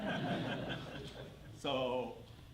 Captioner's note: laughter